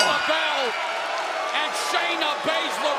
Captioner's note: bell ringing